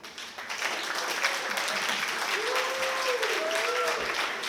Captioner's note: applause